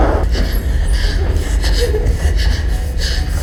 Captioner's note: person panting